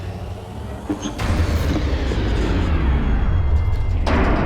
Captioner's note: elevator whirring; creaking; elevator stops